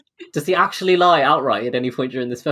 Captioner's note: laughs